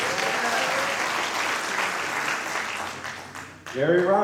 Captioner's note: applause